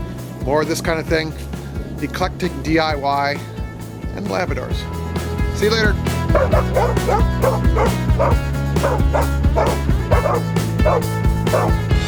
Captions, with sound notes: More of this kind of thing, eclectic DIY and Labradors. See you later! (dogs excitedly barking) (upbeat music)